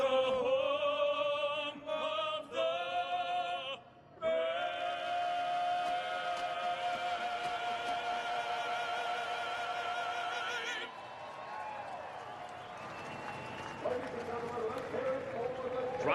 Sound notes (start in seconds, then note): 2.9 cheers & applause